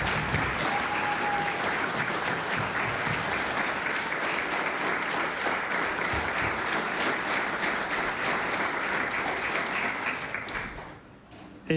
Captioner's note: applause